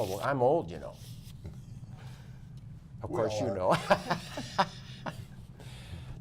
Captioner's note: laughter